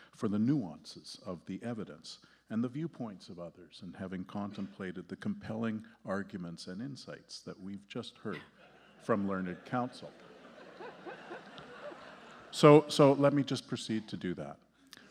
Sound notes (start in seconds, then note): 10.5 justices and audience laughing